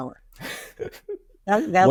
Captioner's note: laughing